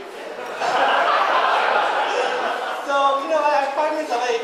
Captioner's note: audience laughing